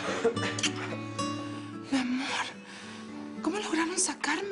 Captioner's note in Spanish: Chavita tose